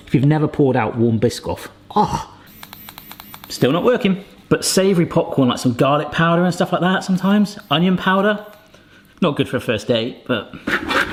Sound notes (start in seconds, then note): 2.5 buzzing